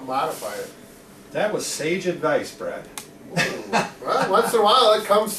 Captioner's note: chuckles